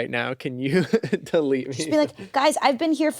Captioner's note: laughs